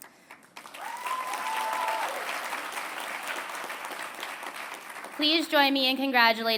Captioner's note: applause